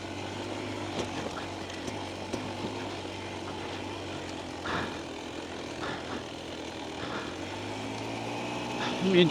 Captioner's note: panting